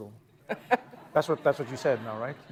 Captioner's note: laughter